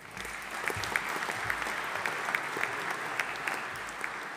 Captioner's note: audience applauding